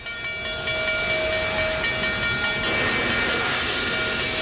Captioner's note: train bell ringing